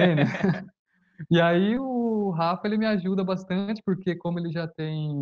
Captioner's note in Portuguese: risos